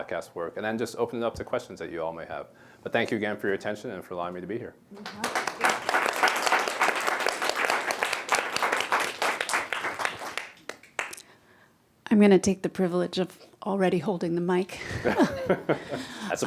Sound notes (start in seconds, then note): 5.0 applause